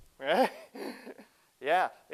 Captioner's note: laughs